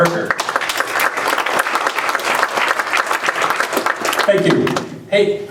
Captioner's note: applause